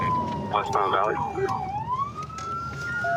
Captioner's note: sirens